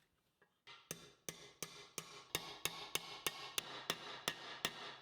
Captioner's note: hammer banging